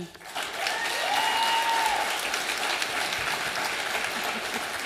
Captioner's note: audience applauding